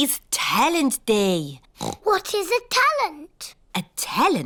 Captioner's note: oinks